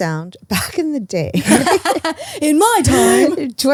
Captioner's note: laugh